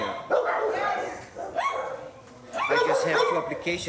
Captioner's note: dogs barking